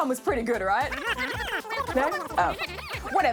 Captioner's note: babbling